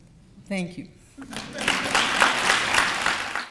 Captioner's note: audience applauds